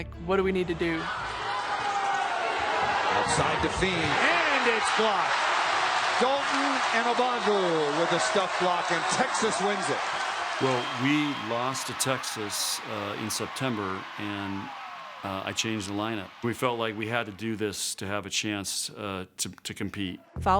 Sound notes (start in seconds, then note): 1.7 cheering